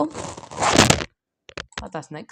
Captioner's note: microhone falling